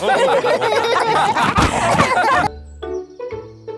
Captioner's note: all laughing